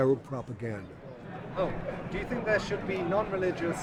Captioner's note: voiceover